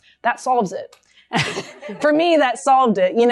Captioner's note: laughter